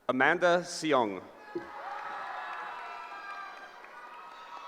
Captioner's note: cheering